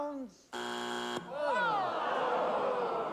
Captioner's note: buzzer